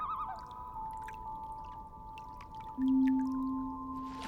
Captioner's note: bird calls